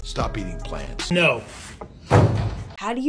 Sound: vegetables thudding

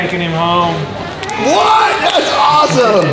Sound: crowd cheering

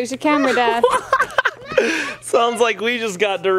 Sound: laughs

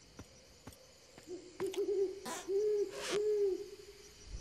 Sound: hooting

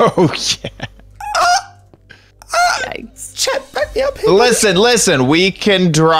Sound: gasping

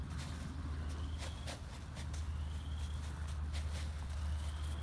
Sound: feed sack rustles

